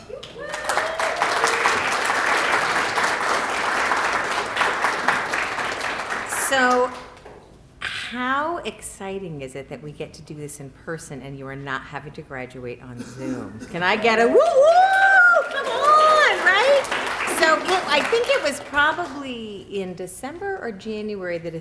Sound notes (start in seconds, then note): 0.0 applause; 16.7 applause